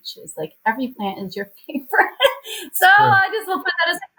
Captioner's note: laughs